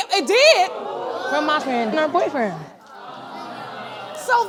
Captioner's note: audience gasps